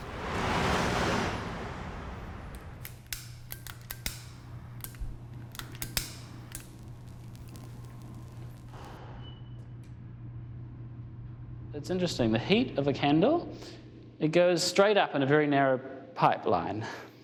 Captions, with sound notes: (cars whirring) It's interesting, the heat of a candle, it goes straight up in a very narrow pipeline.